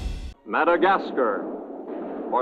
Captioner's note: cannons blasting